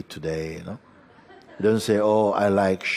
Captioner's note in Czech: smích